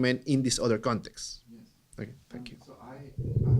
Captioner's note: voiceover